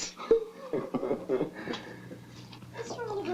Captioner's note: chuckling